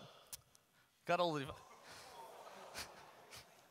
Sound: audience laughter

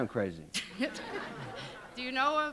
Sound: laugher

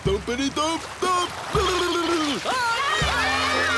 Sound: gurgles

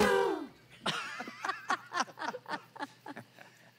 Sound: laughs

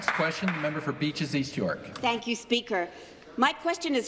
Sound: some Applause

